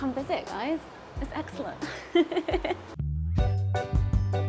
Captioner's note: laughs; jazzy Latin music